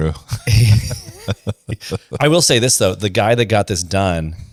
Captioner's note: laughs